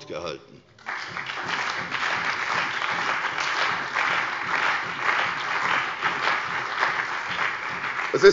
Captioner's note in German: Beifall bei der CDU und dem BÜNDNIS 90/DIE GRÜNEN